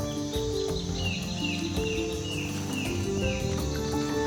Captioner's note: bird chirping